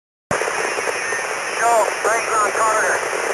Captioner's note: static